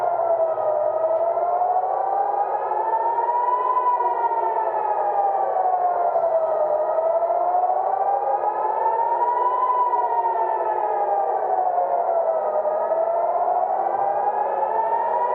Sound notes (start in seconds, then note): 4.0 sirens sounding